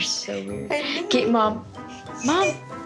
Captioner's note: chuckles